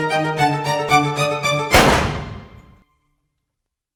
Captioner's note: gun noise